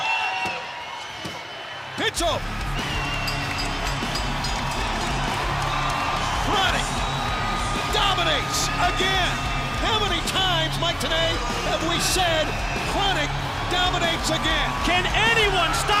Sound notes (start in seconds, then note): 3.0 bell ringing